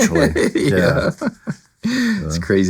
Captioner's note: laughing